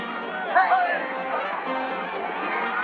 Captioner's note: loud chattering